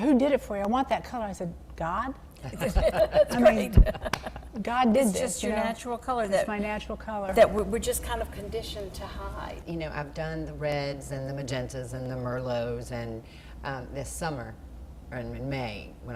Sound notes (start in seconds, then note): 4.0 laughter